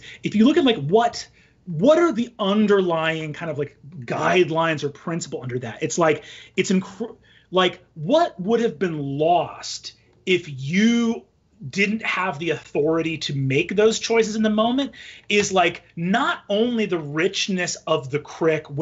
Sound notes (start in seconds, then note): none